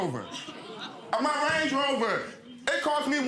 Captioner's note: audience exclaiming